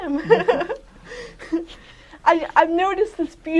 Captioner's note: laughter